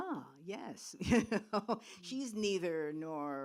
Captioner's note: laughs